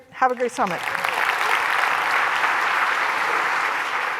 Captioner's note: applause